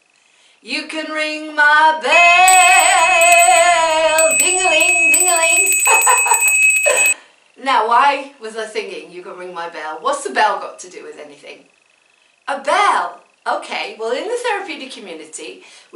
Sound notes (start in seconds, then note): 4.3 bell rings loudly; 5.5 laughs